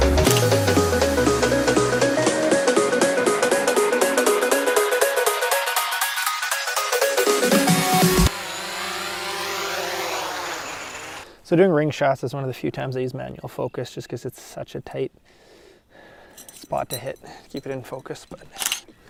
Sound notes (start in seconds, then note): 0.2 click; 3.0 upbeat music; 7.9 drone whirs